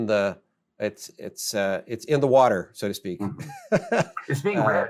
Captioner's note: softly chuckles